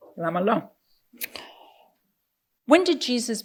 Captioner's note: speaking in foreign language